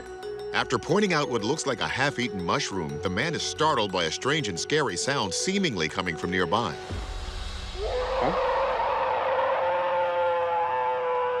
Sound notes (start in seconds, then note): 7.8 alleged bigfoot roaring